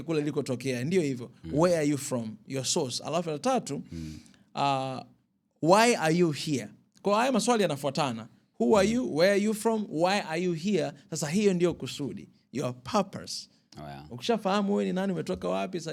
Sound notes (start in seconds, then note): 3.9 snorts